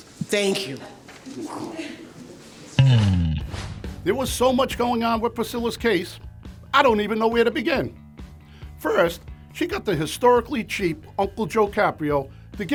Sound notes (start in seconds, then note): 2.8 swooshing; 2.8 upbeat rhythmic music